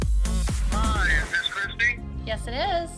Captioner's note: man over phone